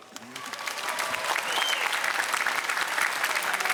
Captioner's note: applause